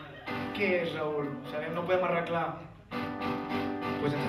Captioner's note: in catalan